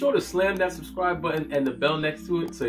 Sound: computer mouse clicking

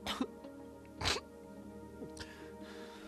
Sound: sobbing

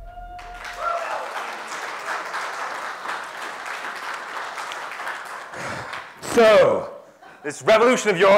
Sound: applause

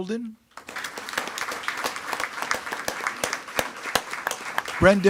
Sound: attendees clapping

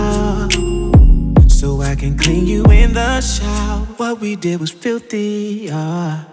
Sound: ohh

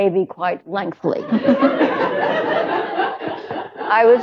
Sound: laughter

